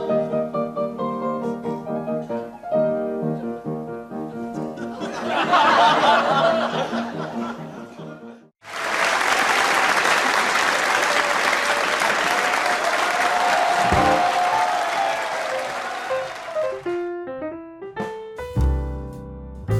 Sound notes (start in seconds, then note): 4.8 comedic stumble / laughter; 8.6 audience applause